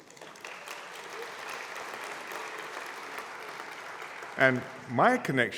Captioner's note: applause